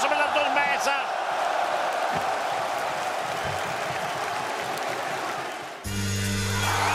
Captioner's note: applause